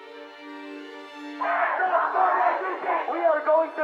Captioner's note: protestors chanting; protestor chanting